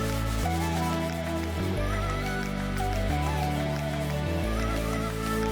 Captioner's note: sandpaper scratching